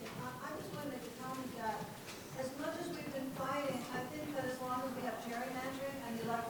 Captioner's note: woman speaking off microphone